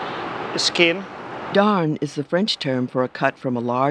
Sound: voiceover

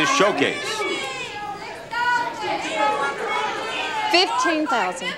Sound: audience shouts over each other

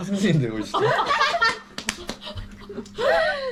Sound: laughing to death

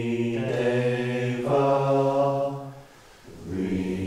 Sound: chanting continues

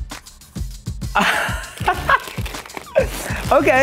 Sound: laughs

